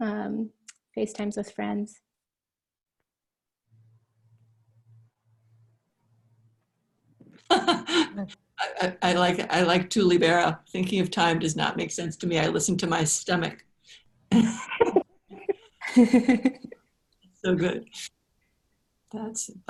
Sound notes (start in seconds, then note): 7.4 laughter